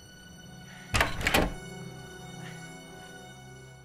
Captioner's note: door clacks